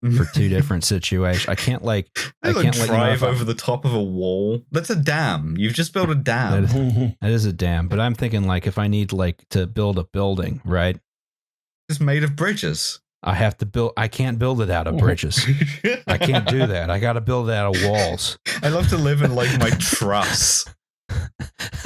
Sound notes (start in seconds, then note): 15.2 laughter; 21.1 laughs